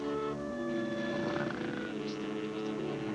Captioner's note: snore